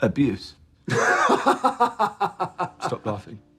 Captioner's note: laughs